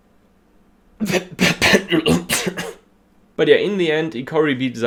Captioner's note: coughs